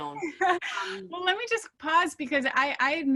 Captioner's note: laughing